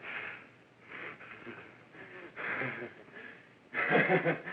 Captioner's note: breathing heavily